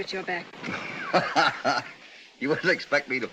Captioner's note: hoppy chuckles